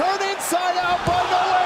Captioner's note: crowd cheering